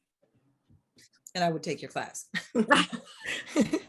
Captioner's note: laughs